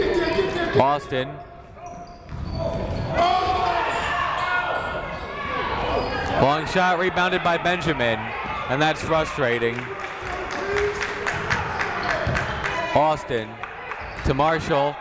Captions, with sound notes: Austin. Long shot rebounded by Benjamin. And that's frustrating. (clapping) Austin to Marcial.